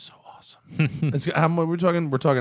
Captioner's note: laughter